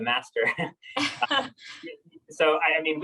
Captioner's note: laughing